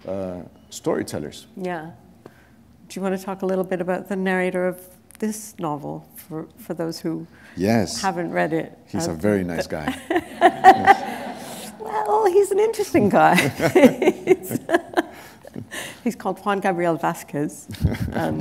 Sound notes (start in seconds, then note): 9.8 laughter